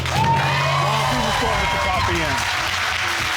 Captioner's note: loud applause